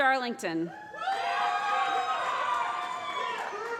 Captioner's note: applause